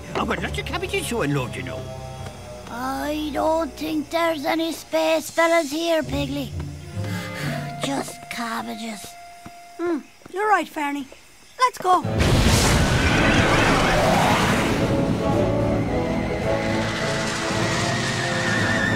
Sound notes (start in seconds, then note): 12.1 rockets blast